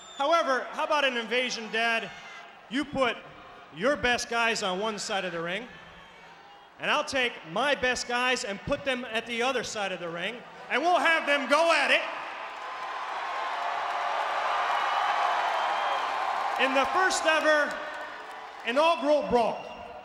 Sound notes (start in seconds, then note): 12.3 audience cheering